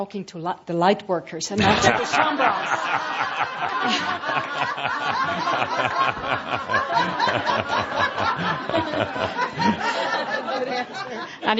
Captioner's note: lots of laughter from audience